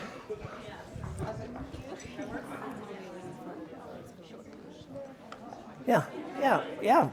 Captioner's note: students chattering indistinct